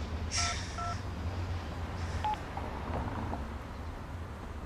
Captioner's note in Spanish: Sonido al marcar el celular